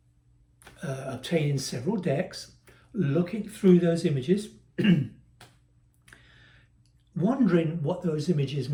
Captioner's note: cough